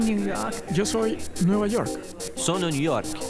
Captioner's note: Spanish